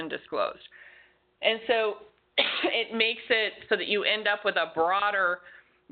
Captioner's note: coughs